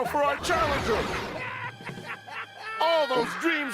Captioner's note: cackling